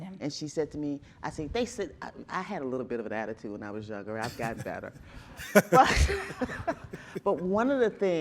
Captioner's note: chuckling